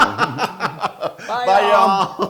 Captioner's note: laugh